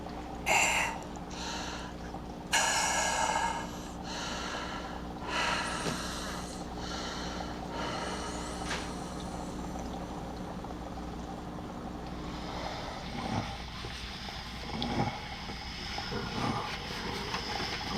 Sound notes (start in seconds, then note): 0.4 gasping; 5.2 exhales, Falls Silent; 12.2 grunting Continues, Calmer